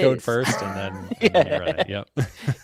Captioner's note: laughter